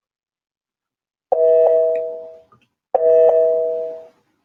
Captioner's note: computer pings